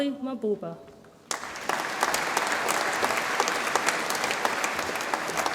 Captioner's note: audience applauds